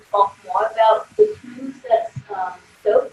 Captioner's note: audio warps